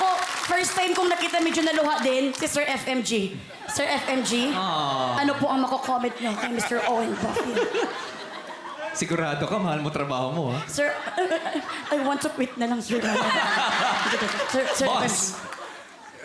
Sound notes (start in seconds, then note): 7.6 robi chuckles; 13.4 crowd laughs